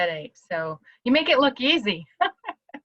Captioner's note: laughter